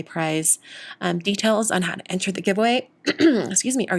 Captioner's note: clears throat